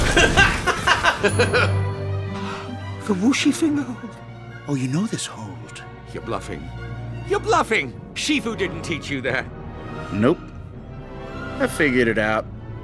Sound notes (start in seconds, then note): 2.3 gasps